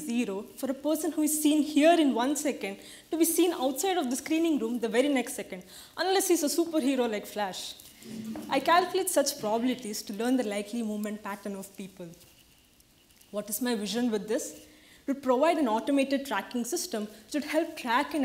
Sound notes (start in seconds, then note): 7.5 audience laughs